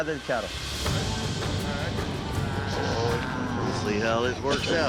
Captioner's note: cattle mooing